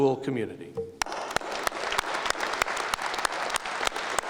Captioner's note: applause